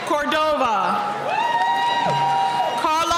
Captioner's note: cheering